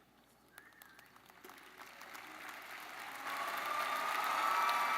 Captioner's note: graduates cheer